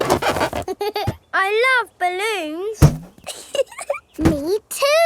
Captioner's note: chuckles